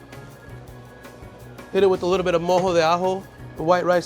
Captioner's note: speaks foreign language